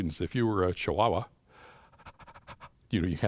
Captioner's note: inhales and exhales faster